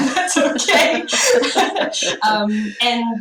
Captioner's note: laugh